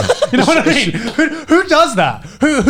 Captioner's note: laughing